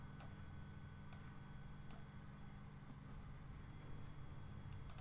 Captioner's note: mouse clicking